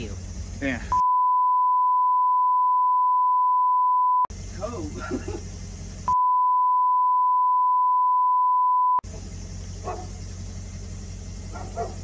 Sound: indistinct chatter and dogs barking

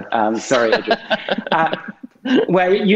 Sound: laughing

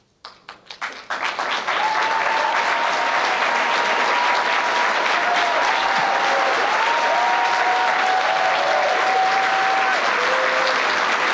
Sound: applause and cheering

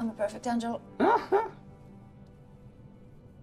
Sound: Tom laughing

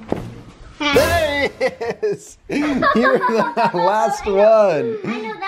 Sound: laughs

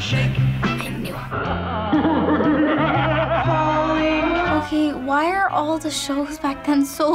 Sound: off-screen maniacal laughter

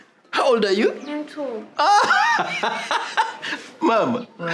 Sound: laughter

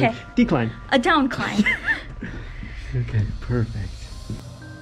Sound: laughs

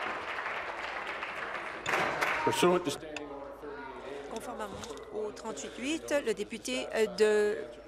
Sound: applause

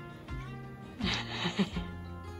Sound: laughters

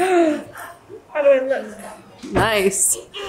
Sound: chuckles; gasps

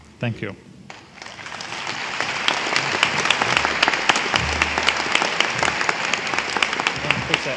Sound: applause

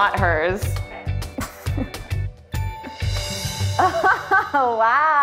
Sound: laughs

